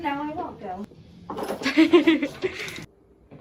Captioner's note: cousin offscreen laughter